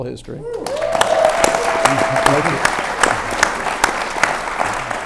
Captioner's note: audience cheers and claps